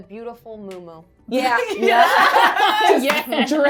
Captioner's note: everyone laughing